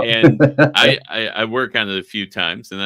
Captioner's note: chuckling